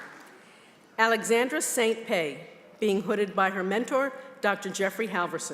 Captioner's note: applause